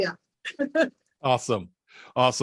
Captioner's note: laughs